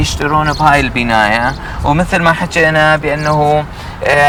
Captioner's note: speaking Arabic